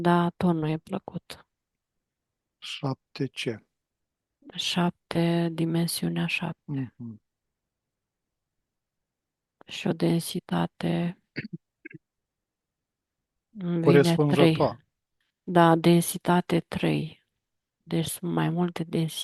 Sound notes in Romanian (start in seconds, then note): 11.8 voce dreasă